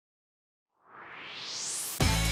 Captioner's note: swoosh